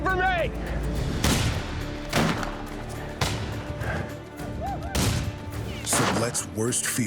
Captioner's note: gunfire